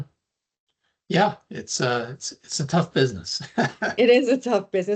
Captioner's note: laughing